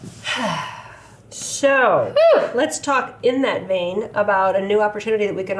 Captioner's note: exhales